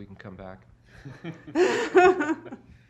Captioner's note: laughter